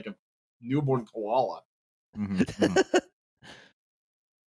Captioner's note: laughs